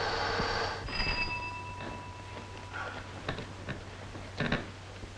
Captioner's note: doorbell rings